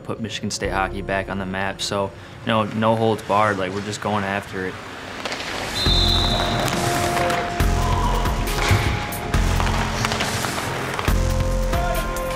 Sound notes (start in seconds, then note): 5.7 whistle blows; 5.9 techno music; 6.8 men yelling